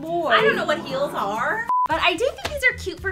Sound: beep

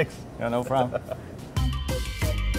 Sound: giggles

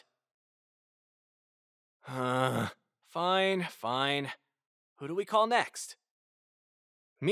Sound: groan

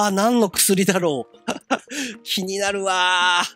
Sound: giggle

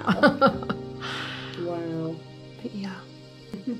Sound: laughs

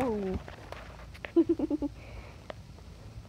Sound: giggles like nothing happened because I got embrassed

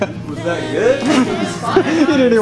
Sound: laughing

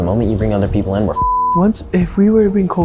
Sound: beep

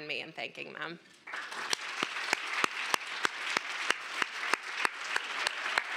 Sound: applause

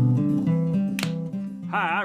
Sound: guitar music; clap

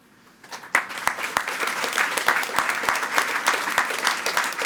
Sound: attendees clapping

